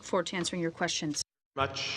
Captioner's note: speaking French